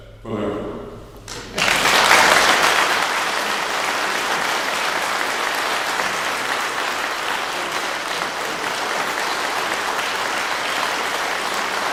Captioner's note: clapping